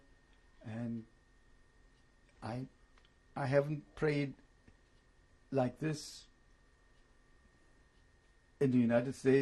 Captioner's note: pauses for 3 seconds